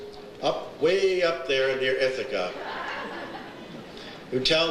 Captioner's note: audience laughs